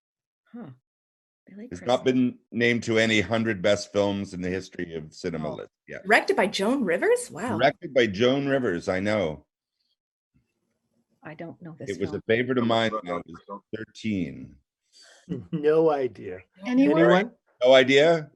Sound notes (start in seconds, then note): 7.4 groaning